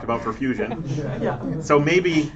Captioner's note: laughter